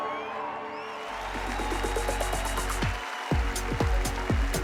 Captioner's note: applause